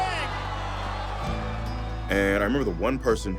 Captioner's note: applause